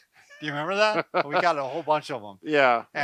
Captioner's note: both laughing